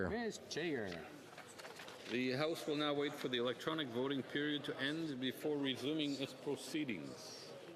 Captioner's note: calling of recorded vote